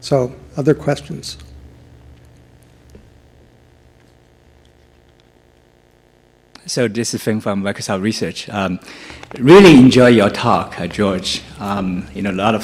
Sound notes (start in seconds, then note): 6.8 voiceover